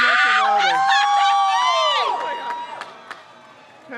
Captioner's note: crowd cheers